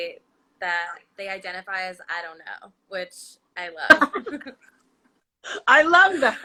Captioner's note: laughs